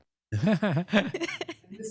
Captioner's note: laughter